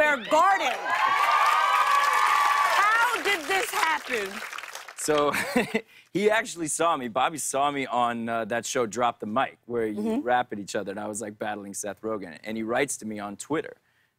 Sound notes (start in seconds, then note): 0.0 cheers and applause; 4.2 laughs